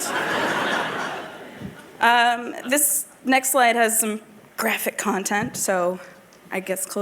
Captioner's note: laughter